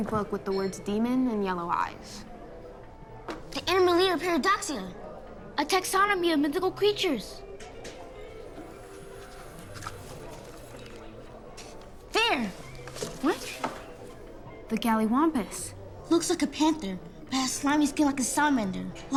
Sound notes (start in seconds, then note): none